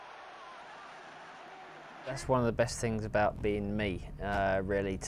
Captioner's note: cheering